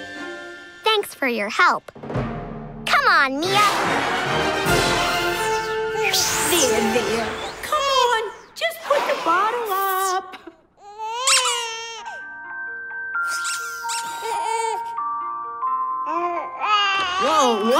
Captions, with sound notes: Thanks for your help. Come on, Mia! There there. Come on. Just put the bottle up. [crying] [cooing] Whoa! What?